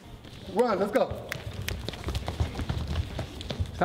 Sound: snaps fingers

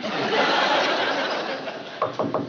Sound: knock on door

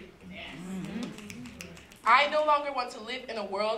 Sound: applause

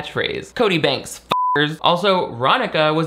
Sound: beep

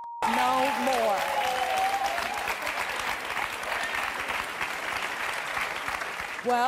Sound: audience cheers and applauds

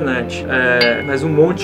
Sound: ding!

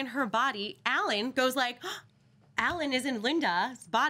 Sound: gasps

